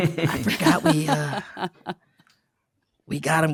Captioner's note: chuckles